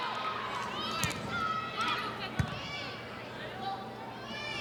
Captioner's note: ball thumping